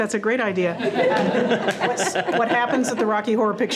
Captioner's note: all laughing